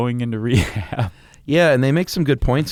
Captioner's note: laughs